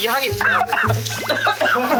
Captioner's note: cough